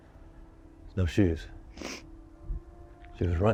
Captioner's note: Liz sniffing